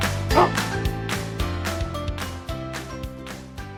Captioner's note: dog barks